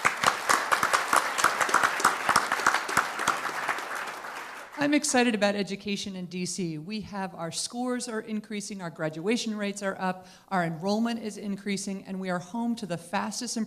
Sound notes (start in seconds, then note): 3.6 applause